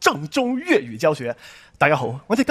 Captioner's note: Cantonese